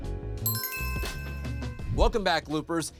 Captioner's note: logo chiming